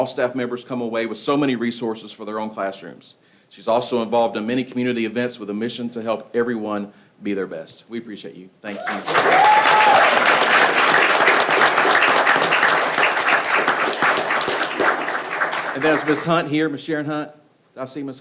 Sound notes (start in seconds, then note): 8.7 people clapping; 8.7 person cheering